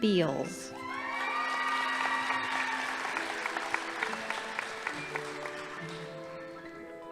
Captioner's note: crowd cheering; audience applauding